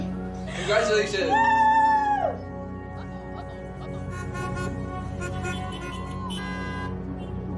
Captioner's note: car horns honking